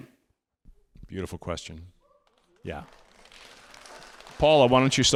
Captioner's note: audience applauding